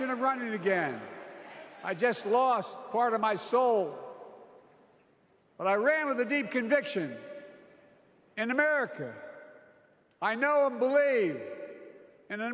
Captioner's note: applause